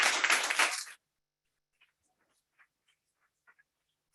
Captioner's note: audience clapping